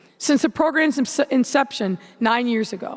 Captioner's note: none